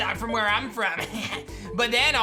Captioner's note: giggles